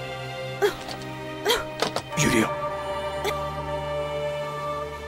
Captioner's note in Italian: colpi di tosse